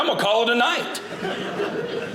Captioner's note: audience laughing